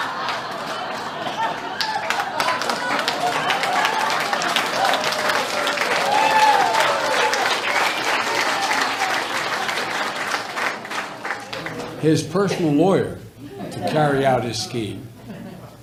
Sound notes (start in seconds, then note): 0.0 laughter; 0.0 applause